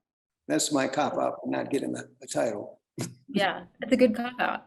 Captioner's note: chuckles